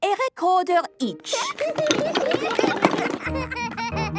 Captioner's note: laughter